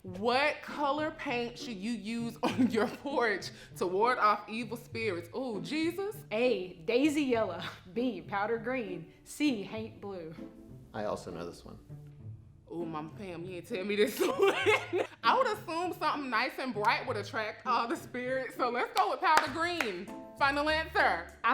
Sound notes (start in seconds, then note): 14.1 laughing